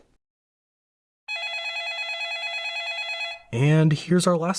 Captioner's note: phone ringing